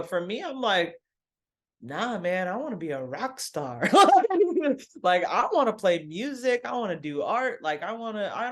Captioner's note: laughs